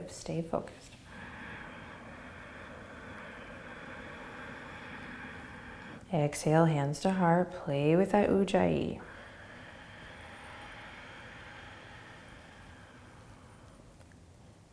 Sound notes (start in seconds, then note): 0.9 inhaling; 8.1 exhaling